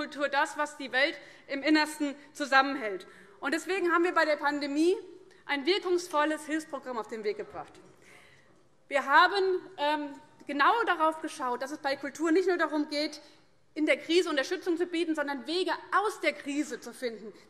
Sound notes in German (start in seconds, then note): none